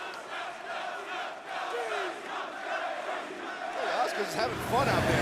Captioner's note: crowd cheering